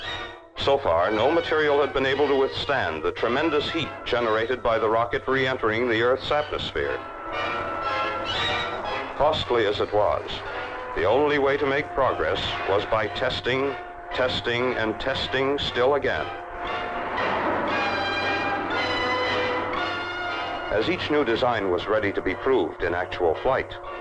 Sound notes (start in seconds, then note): 16.0 dramatic orchestral music continues; 18.4 machinery whirring